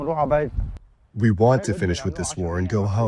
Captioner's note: through translator